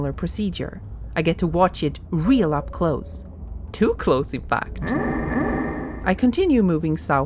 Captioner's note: bump noise